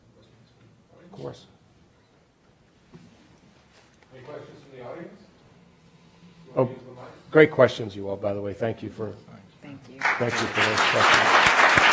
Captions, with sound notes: - [Voiceover] Any questions from the audience? Go ahead and use the mic. - Great questions, you all, by the way. Thank you for those questions. (applauding)